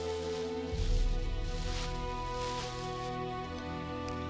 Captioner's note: leaves rustling